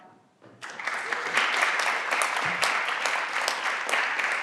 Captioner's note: everyone claps